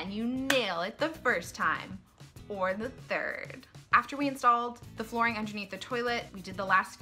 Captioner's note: hand clap